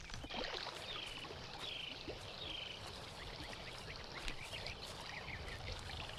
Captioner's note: water gurgling softly; wildlife chirping